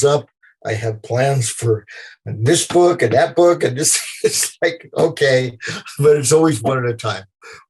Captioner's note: laughter